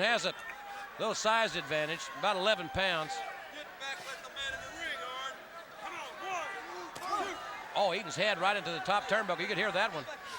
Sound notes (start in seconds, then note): 4.1 crowd chatter